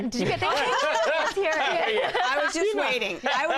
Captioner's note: laughter